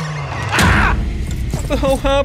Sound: Stan yells

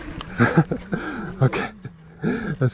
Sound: laughs

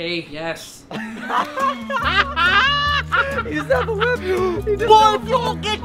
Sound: laughing

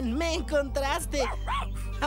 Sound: barking

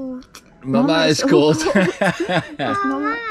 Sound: laughs; blabbers in Dutch

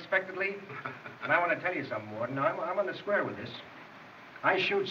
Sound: chuckles

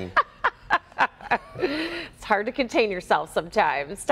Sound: laughter

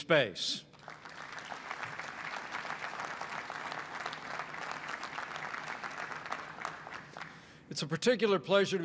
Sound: applause

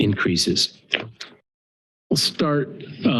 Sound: flipping a page

